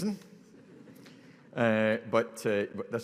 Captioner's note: audience laughing